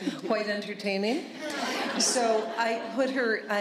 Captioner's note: laughter